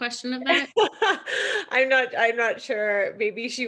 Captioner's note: laughs